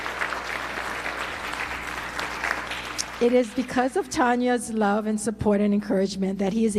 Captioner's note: applause